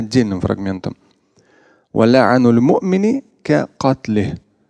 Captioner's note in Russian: Говорит на арабском